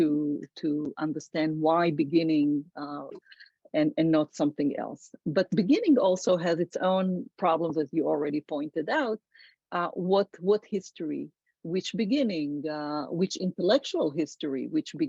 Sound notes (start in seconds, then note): none